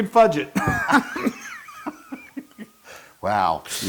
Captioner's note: laugh